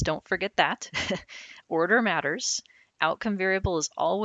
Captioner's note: laughing